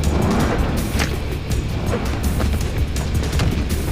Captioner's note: whooshing